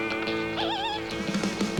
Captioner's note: screech